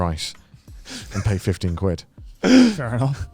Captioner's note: laughs